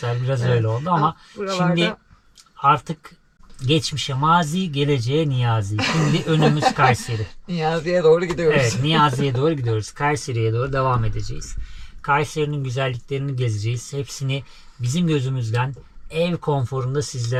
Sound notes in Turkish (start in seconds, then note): 5.8 kahkaha